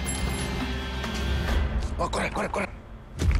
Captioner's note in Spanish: Disparos